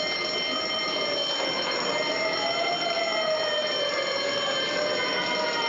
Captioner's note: siren blaring